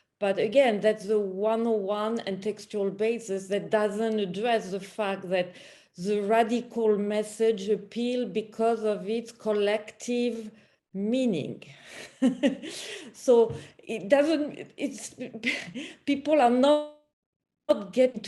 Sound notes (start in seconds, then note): 11.8 chuckle